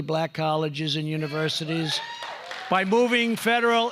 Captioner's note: applause